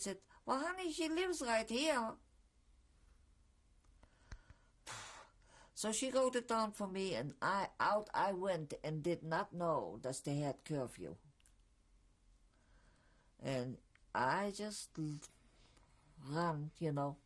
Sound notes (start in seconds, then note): 2.2 pauses for 3 seconds; 2.2 sighs; 11.3 pauses for 3 seconds